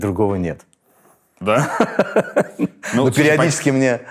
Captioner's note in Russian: смеётся